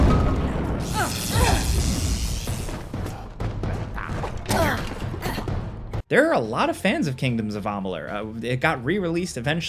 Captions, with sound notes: (character gasping) There are a lot of fans of "Kingdoms of Amalur". It got re-released eventually